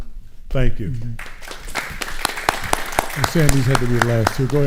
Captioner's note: audience applauding